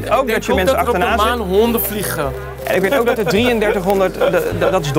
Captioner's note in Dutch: lacht